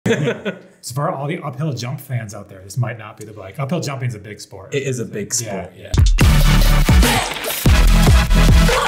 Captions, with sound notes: (laughing) - As far all the uphill jump fans out there, this might not be the bike- uphill jumping is a big sport. - It is a big sport. (upbeat music)